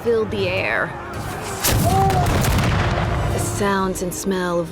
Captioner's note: cannon blasts, gunfire